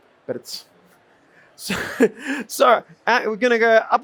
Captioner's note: chuckles